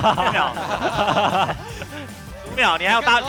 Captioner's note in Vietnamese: hai nhân vật cười hùa